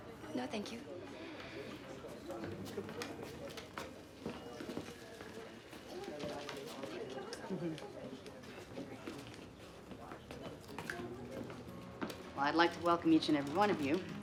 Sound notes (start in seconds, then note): 3.6 indistinct conversation